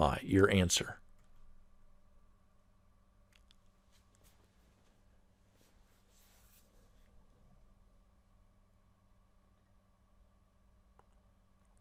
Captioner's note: pause